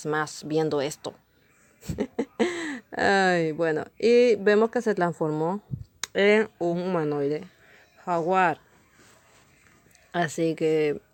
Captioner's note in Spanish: risas